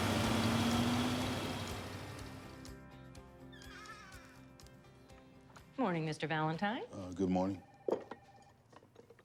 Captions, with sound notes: [door creaking] Good morning, Mr. Valentine. Good morning.